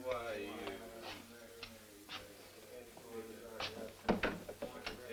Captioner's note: prisoners murmuring